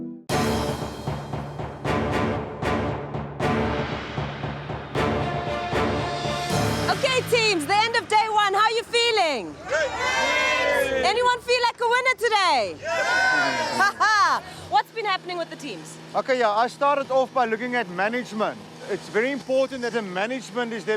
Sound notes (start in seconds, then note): 0.2 dramatic music; 9.0 crowd cheers